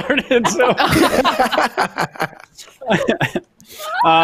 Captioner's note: laughing